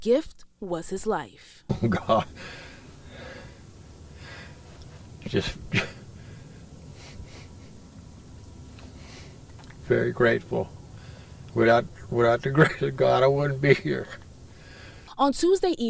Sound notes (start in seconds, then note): 1.7 he starts crying